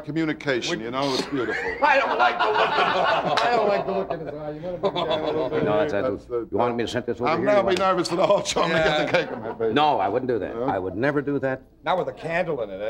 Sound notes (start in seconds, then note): 4.6 laughing